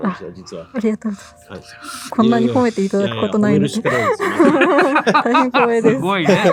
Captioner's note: laugh